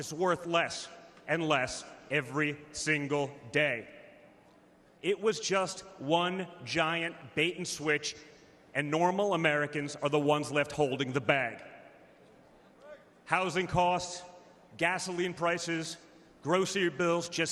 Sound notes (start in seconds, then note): none